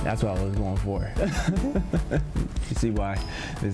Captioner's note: laughs